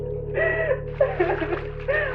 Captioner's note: water pouring